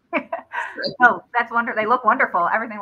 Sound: laughter

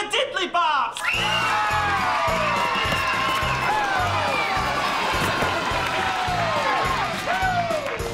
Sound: cheering

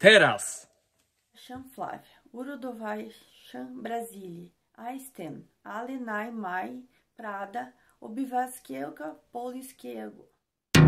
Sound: Polish

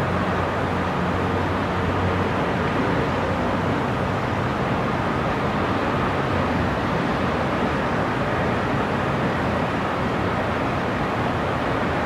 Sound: sound of distant cars and city noises

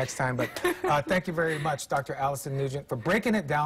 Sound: laughter

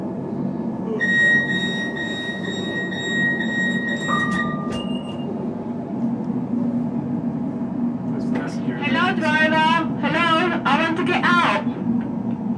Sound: beeping

